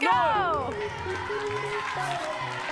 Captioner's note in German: Jubel